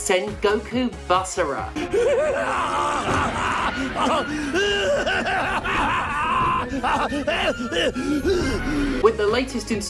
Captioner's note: mwahahahaha *coughs